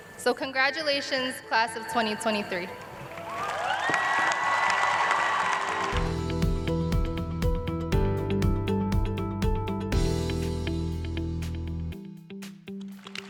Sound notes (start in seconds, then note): 3.0 cheers and applause